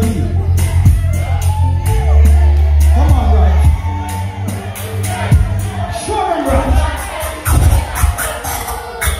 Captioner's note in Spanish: scratch